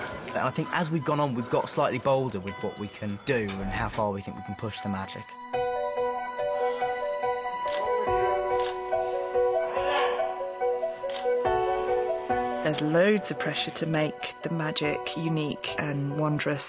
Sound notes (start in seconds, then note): 7.7 camera shutter clicking